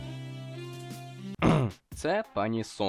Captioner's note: cough